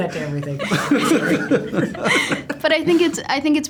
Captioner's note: laughter